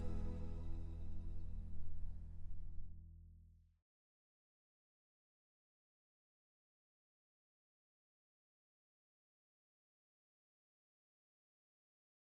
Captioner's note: no audio